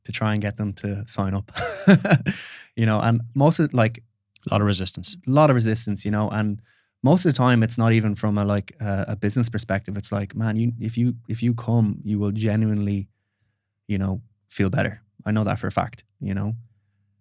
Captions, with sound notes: to try and get them to sign up. (laughs) You know, and most of like- - A lot of resistance. - A lot of resistance, you know, and most of the time it's not even from a business perspective, it's like, man, if you come, you will genuinely feel better. I know that for a fact, you know?